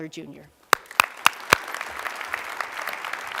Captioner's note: applause